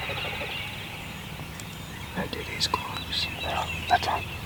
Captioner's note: whispering